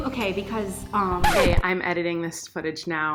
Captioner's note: record scratching